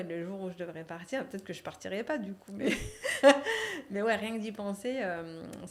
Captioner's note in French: rires